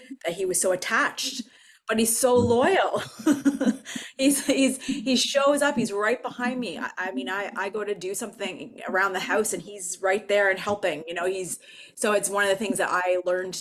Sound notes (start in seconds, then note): 3.0 laughs